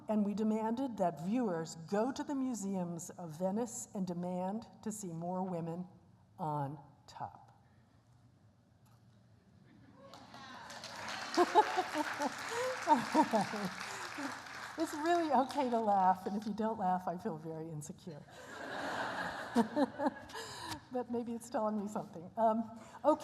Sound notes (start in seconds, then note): 10.0 applause; 18.3 laughter